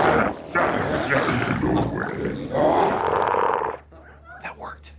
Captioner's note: glowzies grunting continues